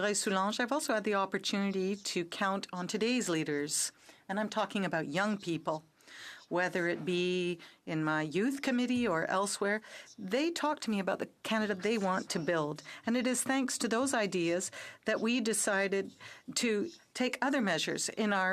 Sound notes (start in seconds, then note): 4.7 speaking in French